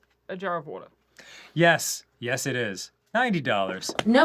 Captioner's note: takes a deep breath in